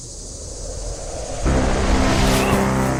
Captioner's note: windy whoosh